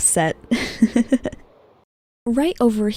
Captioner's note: laughing